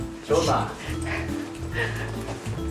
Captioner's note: weird accent